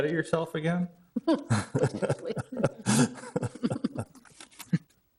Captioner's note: all chuckling